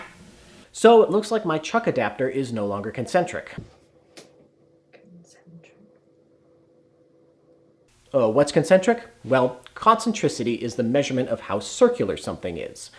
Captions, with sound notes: So it looks like my chuck adaptor is no longer concentric. [quietly] concentric? Oh, what's concentric? Well concentricity is the measurement of how circular something is.